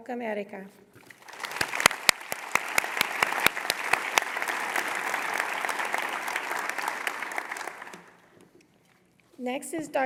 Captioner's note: applause